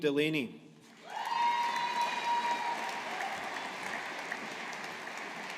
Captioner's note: audience applauding